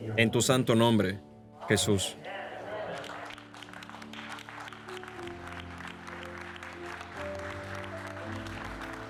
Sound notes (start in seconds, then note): 2.5 congregation applauding; 6.6 gentle music